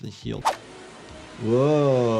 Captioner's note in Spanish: motor acelerando